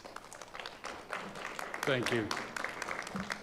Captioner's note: audience applauding